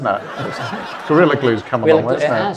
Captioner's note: audience laughing